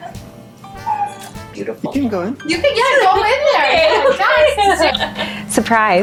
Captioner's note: laughs